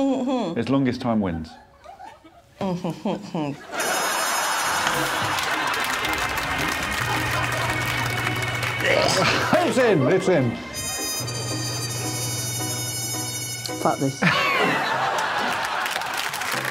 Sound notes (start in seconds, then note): 0.3 muttering; 8.8 Ardal gags